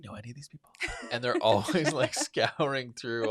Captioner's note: laughs